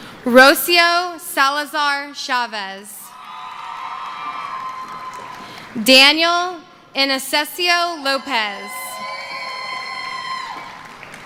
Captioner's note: cheering